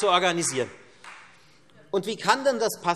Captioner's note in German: Beifall Freie Demokraten